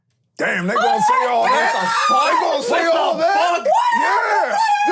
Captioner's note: all start screaming